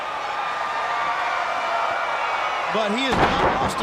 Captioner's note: crowd cheering